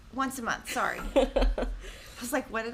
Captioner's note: laughing